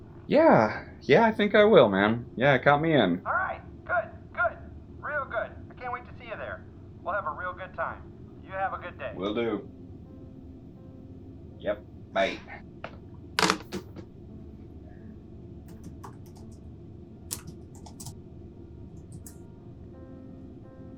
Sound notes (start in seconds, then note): 13.4 phone clicks down into place; 17.3 Keys click as Ludlow types